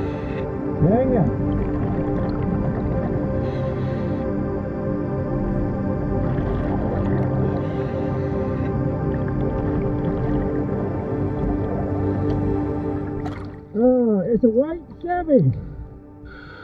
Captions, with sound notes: Dang it. (soft music continuing) (oxygen tank whooshing) It's a white Chevy.